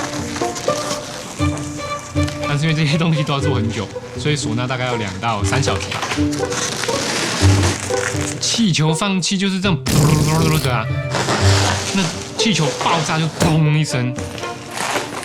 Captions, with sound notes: These things take a long time to make. Sona takes 2 to 3 hours. When you release the air from the balloon it makes a (sound from mouth) And when balloons explode they go (pop sound from mouth)